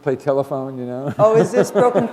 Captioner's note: laughter